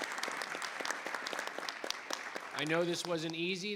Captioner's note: audience applauding